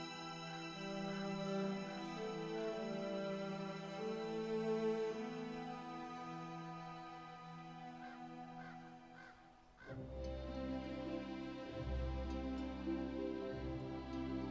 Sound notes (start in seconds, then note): 8.5 crow cawing; 10.7 soft music